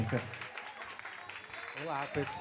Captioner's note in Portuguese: aplausos